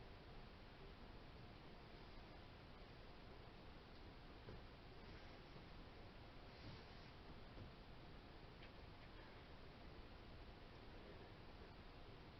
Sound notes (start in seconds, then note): none